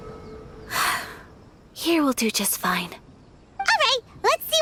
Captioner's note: sigh